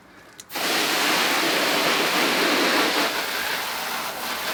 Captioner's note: water gushing